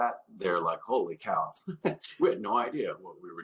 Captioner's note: chuckles